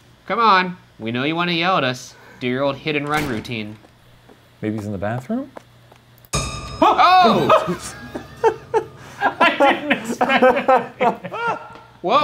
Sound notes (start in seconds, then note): 6.3 intense music; 6.9 group shouting and laughing